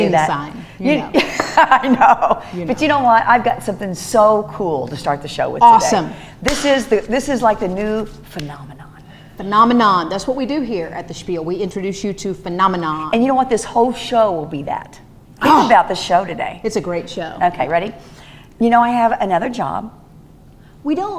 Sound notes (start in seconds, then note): 1.2 laughing